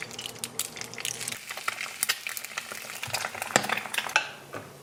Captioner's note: sizzle sizzle